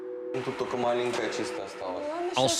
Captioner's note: speaking in foreign language